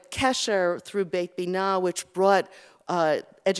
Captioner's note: Hebrew